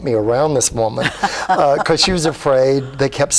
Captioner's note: laughs